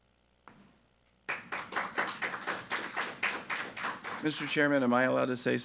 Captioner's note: people clapping